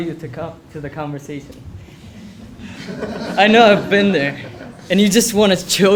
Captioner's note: laugh